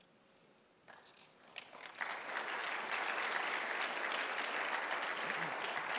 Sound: applause

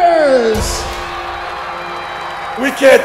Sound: cheering

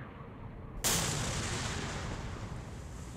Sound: impact

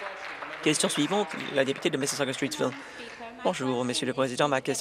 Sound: applause

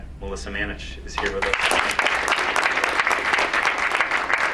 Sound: crowd applauds

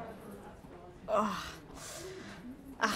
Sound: groaning sounds

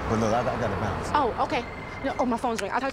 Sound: phone ringing lightly

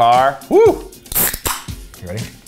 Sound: soda can pops

